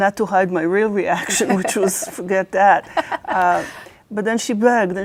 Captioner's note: laughs